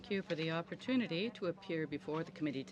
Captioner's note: speaking french